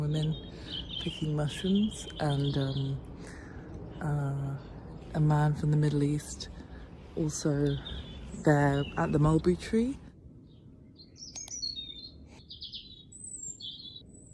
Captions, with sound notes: picking mushrooms and A man from the Middle East also there at the mulberry tree [bird song]